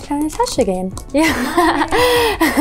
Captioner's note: laughs